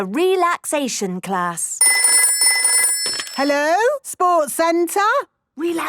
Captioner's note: phone ringing